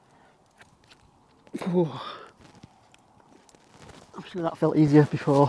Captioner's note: exhales